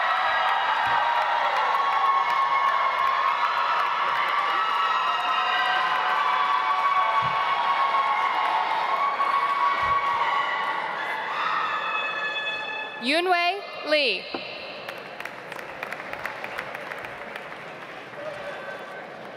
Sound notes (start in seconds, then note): 0.0 audience applauds; 14.7 audience applauds